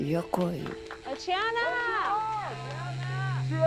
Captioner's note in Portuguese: pessoas chamando